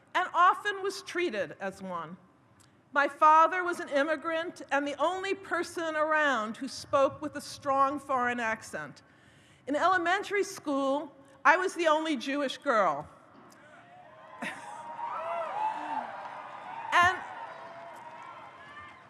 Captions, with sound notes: and often was treated as one. My father was an immigrant, and the only person around who spoke with a strong foreign accent. In elementary school, I was the only Jewish girl. (audience cheers)